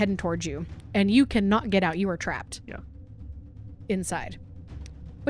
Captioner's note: none